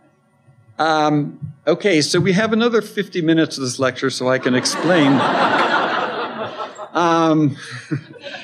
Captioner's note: laughter